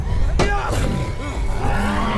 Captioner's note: shovel thwacks; Dweller growls